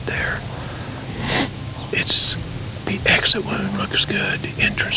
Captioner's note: whispering